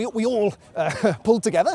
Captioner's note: nervous laugh